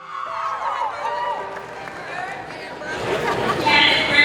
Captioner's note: cheering